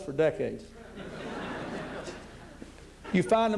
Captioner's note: laughter